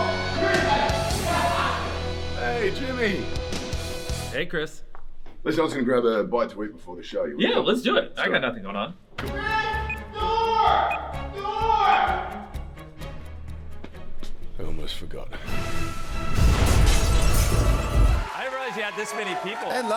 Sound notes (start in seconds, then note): 1.1 laughs; 9.2 timer beeping